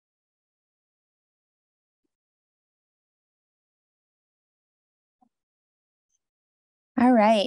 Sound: silence

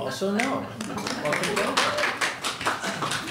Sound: audience applauds

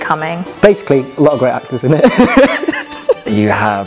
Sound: laughs

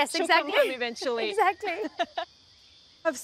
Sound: laughs

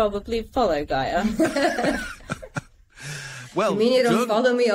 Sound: all laughing

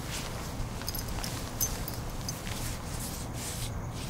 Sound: keys jangling

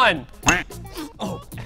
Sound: sniff

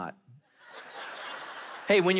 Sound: congregation laughing

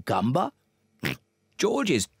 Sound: oinks

